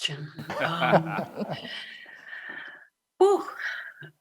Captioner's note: chuckle